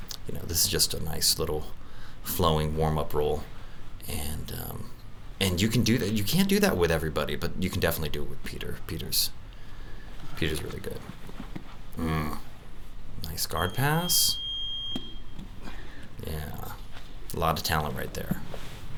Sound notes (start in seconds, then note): 13.6 beep